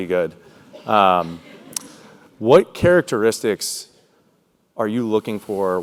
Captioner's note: laugh